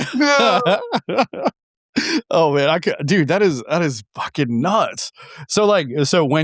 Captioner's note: laughing